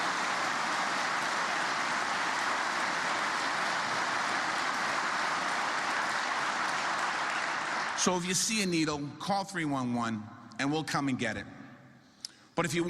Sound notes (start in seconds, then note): 2.7 applause